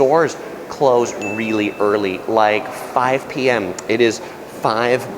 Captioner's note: bell dings